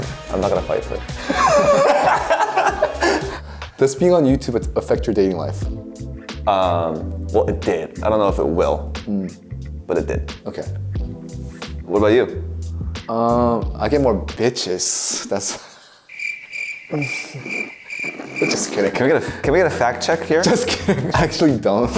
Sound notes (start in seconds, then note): 1.2 both laugh; 16.0 crickets chirping